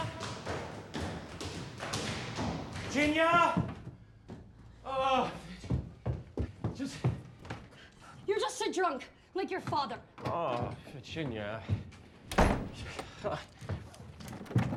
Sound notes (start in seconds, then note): 12.3 door slams close